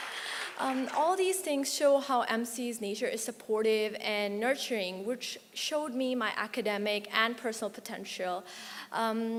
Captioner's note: applause